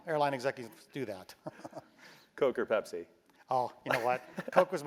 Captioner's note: laugh